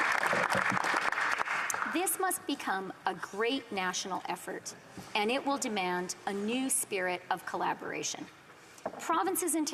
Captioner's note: applause